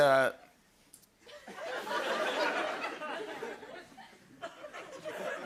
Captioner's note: laughter